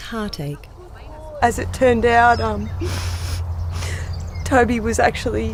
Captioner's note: sniffs